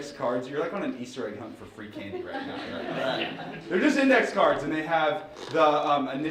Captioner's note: laughing